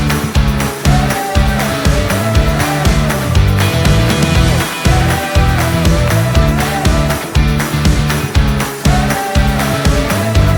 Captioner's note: applause